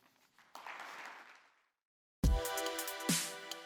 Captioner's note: applause